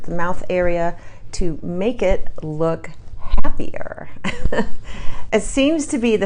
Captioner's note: chuckles